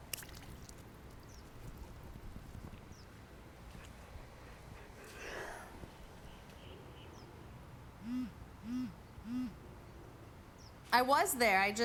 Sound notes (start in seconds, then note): 5.0 yawns; 7.7 phone buzzing